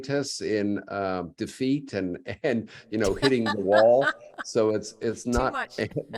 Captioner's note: laughter